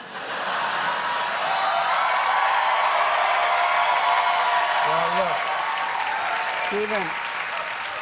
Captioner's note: cheers and applause